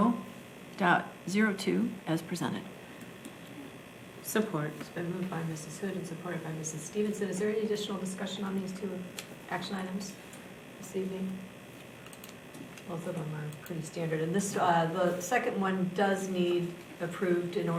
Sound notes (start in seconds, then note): none